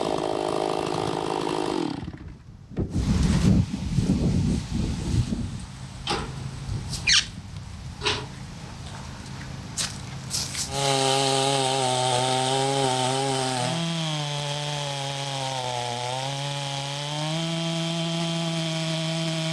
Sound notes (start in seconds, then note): 11.6 saw buzzing